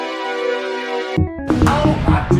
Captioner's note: explosion